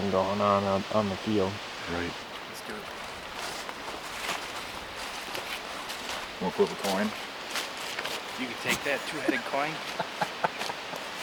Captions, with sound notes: Right. (wind) Wanna flip a coin? You bring that two-headed coin?